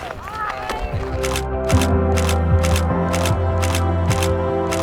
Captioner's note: shutter clicks